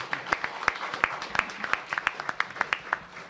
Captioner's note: applause